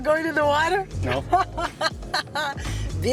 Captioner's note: laughs